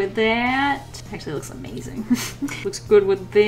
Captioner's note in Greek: Γέλια